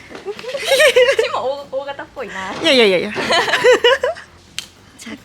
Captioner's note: laughs